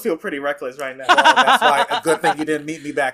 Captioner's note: laughs